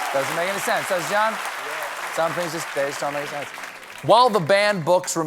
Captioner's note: applause